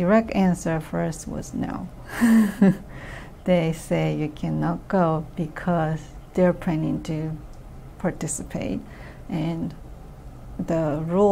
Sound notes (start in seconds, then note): 2.3 laughs